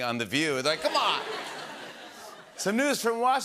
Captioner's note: laughter